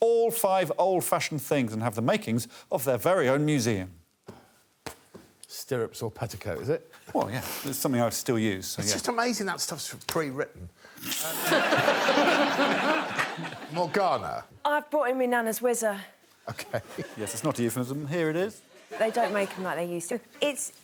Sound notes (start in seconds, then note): 11.2 laughter